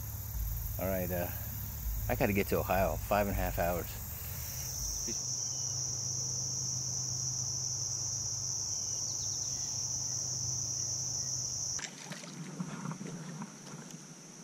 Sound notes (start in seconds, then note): 4.5 birds chirping; 4.5 calm breeze; 11.7 water splashing